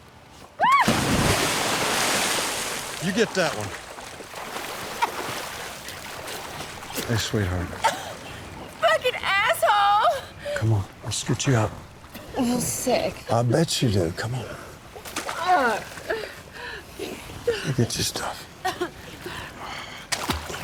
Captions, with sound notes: (Angela screaming) - You get that one. (Angela coughing) - Hey, sweetheart. - (coughs) Fucking asshole. - Come on. Let's get you up. - Feel sick. - I bet you do. Come on. (Angela groaning) I'll get your stuff.